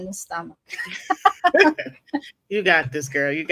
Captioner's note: laughing